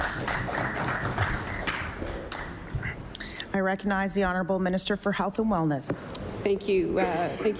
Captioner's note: applause